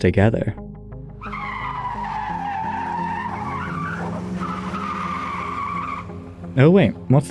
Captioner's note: tyres Screeching